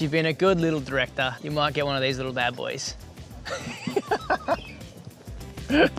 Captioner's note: laughs